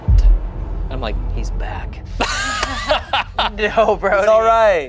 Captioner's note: laughs